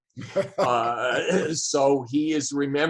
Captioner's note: laughs